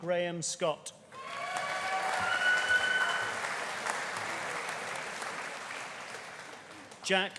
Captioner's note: audience cheering; audience applauding